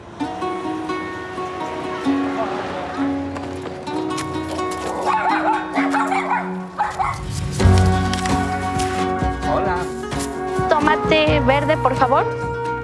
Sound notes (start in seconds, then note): 0.1 upbeat guitar music; 4.9 dog barking